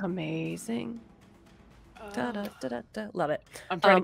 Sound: hums

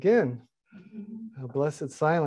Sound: laughing

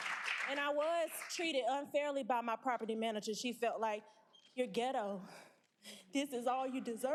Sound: applause

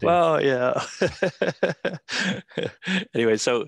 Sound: laughs

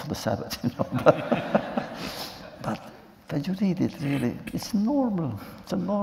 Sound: laughter

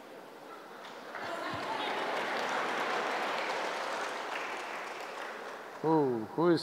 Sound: laughter/Applause

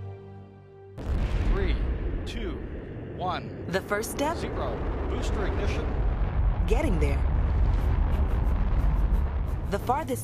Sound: explosion

